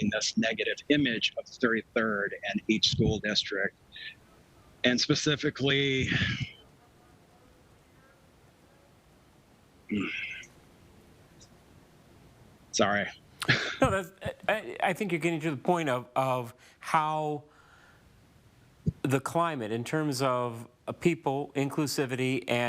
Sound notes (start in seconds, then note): 6.0 sighs